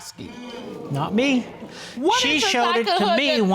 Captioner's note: audience sighing